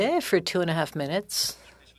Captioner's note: speaking French